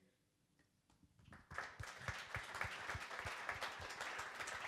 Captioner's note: crowd applauding